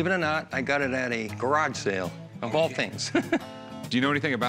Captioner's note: chuckles